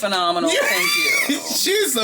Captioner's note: laughing